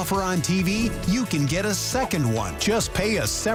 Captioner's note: Italian accent